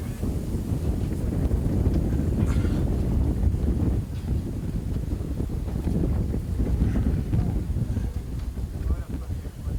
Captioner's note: wind rushing through tunnel